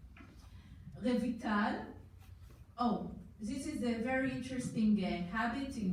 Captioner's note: foreign language